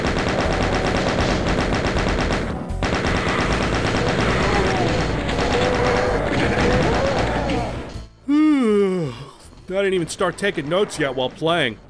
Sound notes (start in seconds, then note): 8.2 yawn